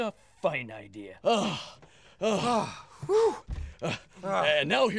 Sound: sighing

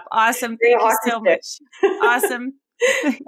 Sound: laughing

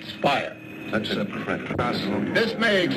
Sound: men chattering

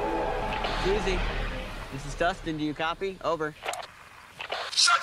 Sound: radio Static

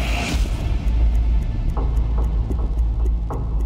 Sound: clock ticking

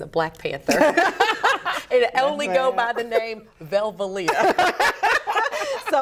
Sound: laughter

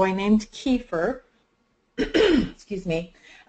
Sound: clears throat

